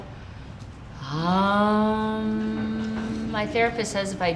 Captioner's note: chanting